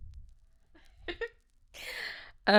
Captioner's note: laughing